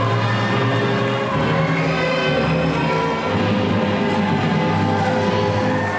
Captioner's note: audience applauding and cheering